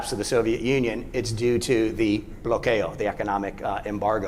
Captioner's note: speaking spanish